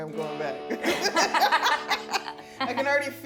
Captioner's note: laughing